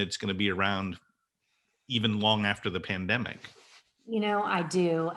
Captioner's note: none